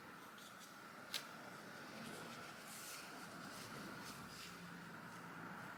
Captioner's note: light sticking sounds